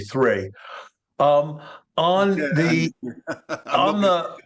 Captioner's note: person laughing